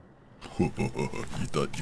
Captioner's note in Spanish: risas de Rey Demonio